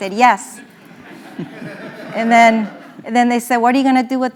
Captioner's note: laugh